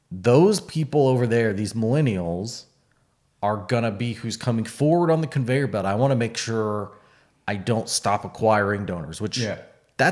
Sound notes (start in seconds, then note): none